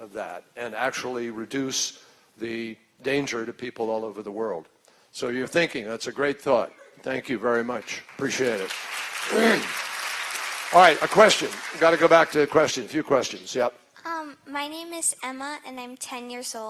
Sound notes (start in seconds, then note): 7.6 applause